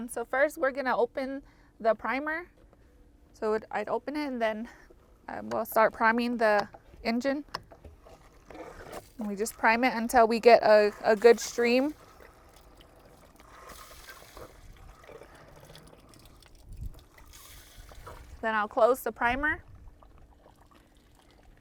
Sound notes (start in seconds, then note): 13.5 liquid sloshes